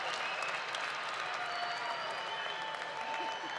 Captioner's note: cheers and applause